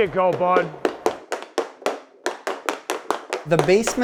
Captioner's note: hockey stick taps